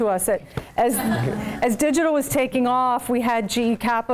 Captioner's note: laugh